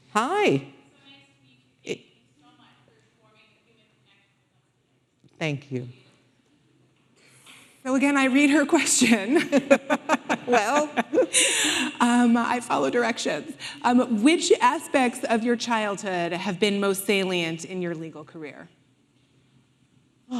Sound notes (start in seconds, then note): 9.2 laughing; 9.4 audience laughing